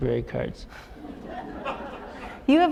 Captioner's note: chuckle